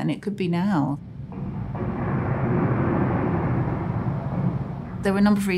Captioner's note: airplane engines roaring ominously